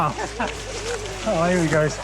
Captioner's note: laughs